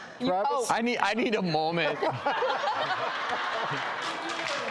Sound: laughter

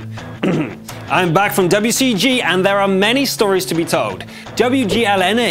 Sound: cough

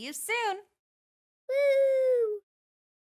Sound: child cheers

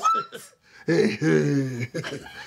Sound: laughing

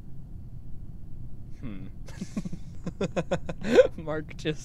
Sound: laughter

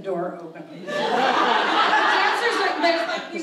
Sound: audience laughs

